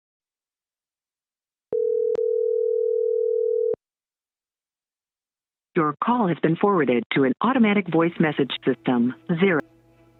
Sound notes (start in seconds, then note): 1.7 phone Ringing